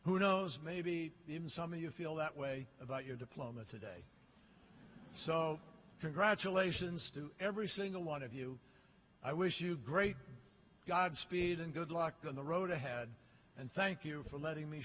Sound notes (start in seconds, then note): 4.7 laughter